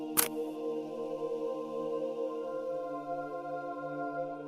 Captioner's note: camera clicking